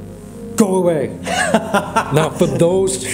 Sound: laughing

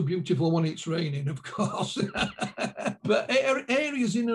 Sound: laughing

